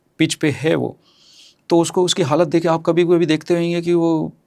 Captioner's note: nasal sound